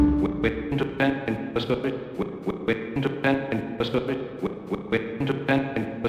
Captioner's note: stuttering unintelligible AI voice